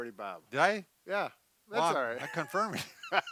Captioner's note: laughing